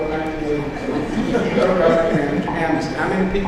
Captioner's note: audience laughs